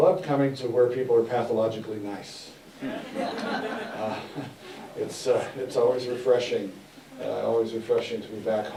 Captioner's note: laughter